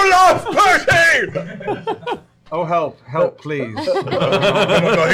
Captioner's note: deadpan